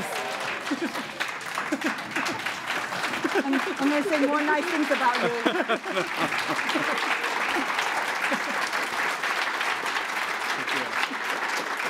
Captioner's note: applause